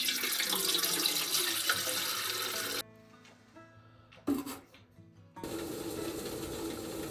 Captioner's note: water running